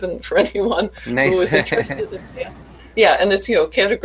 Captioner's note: laughs